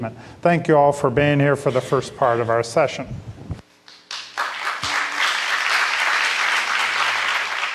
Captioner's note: applause